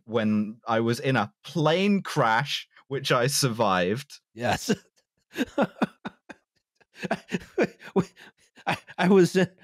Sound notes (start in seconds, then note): 3.4 small laugh; 5.3 continues laughing; 5.3 laughing